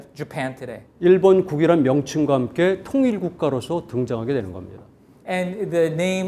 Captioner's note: speaking in Korean